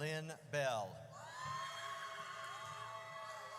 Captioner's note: audience cheers